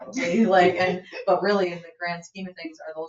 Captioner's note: members laugh